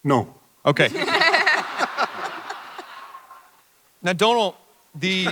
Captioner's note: panelists and audience laugh; panelists laugh